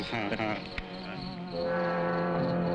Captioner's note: laughing